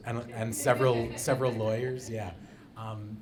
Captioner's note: audience laughing